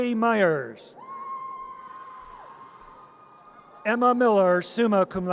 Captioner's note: audience cheers